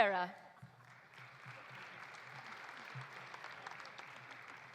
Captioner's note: audience applauding